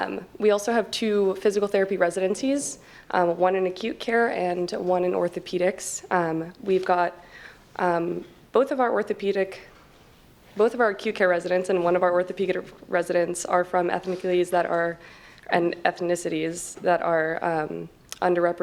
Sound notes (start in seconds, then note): none